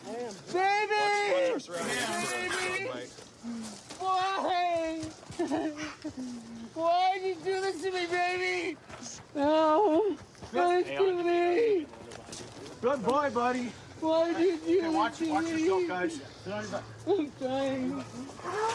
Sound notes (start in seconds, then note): 5.3 sobs